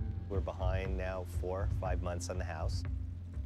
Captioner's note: none